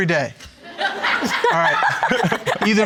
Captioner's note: all laughing